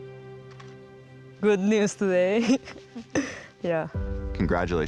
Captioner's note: laughs